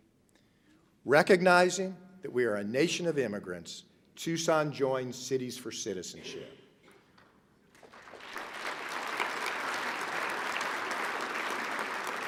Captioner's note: applause